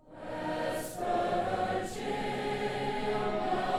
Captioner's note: crowd